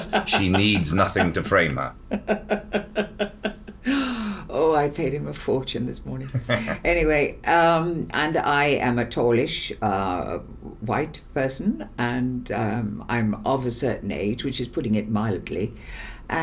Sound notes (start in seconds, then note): 2.1 Siân laughs